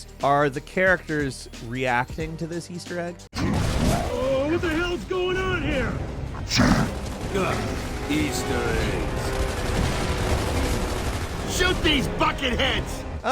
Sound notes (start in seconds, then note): 6.3 Locust grunts; 9.2 guns blasting